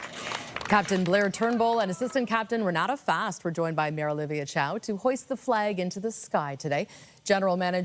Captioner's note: applause